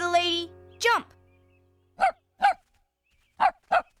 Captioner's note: barking